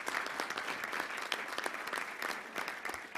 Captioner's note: applause